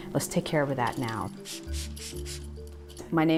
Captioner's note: squirt bottle